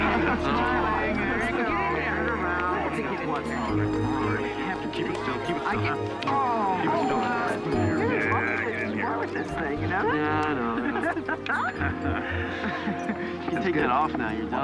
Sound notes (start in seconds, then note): 10.8 laughs